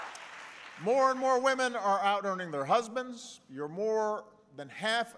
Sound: applause

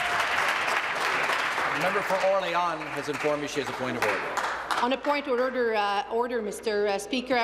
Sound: applause

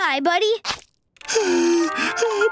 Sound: crying

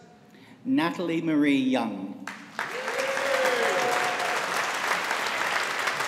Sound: audience applauding

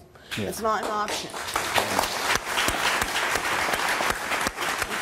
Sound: audience claps

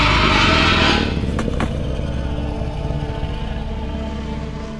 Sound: growling

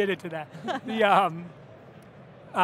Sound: laughs

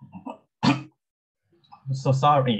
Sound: coughs

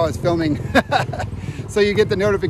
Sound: laughing

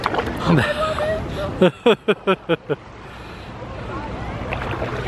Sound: chuckles

